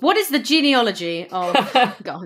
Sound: laughs

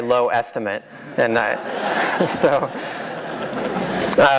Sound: laughter

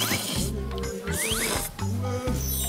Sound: slurping; perfect slurping teamwork

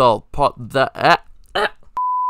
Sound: angry monotone

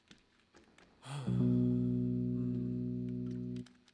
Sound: sighing

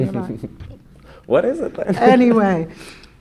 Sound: laughs

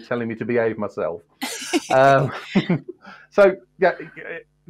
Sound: laughter

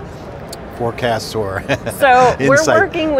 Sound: laughing

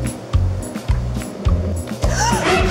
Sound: gasping

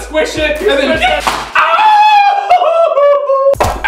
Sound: thud; goofy howl

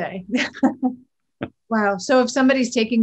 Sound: both laughing

